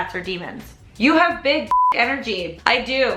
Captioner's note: beep